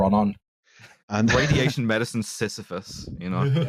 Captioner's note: laughs; laughs